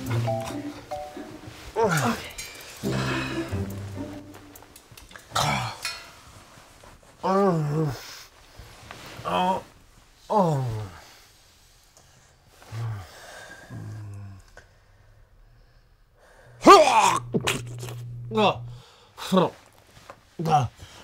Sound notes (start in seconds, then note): 1.7 groans; 5.3 grumbles in sleep; 19.1 gags